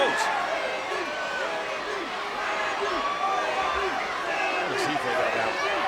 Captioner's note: crowd chanting "Randy"